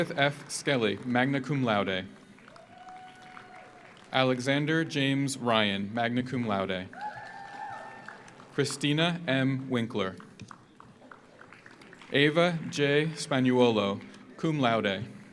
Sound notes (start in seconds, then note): 1.8 audience applauds; 2.4 audience cheers; 6.9 audience applauds; 6.9 audience cheers; 10.4 audience applauds